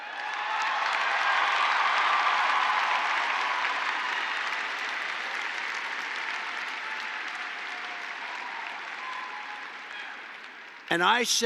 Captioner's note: applause